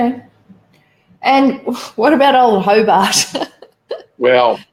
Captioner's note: laughs